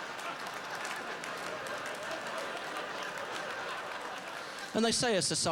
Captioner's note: laughter; sustained laughter